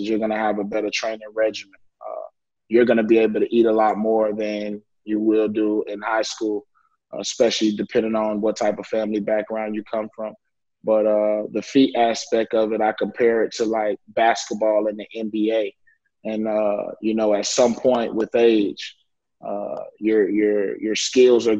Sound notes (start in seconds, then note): none